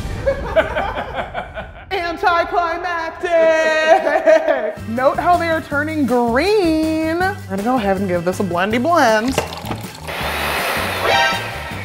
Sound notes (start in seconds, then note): 0.1 laughter; 8.7 pouring sound; 9.4 blending sound; 10.9 alert sound